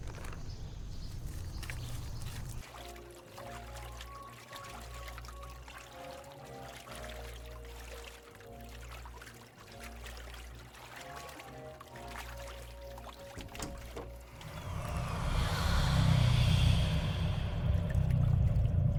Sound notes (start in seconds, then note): 0.0 bag rustles; 0.0 birds chirping; 2.9 water burbling; 13.4 door clatters; 13.9 dark, menacing music